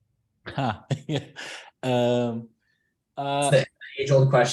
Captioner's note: laughs